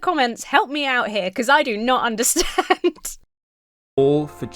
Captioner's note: laughs